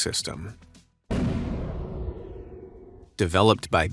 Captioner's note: heavy artillery blasts